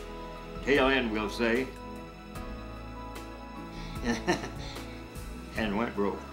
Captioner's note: laughing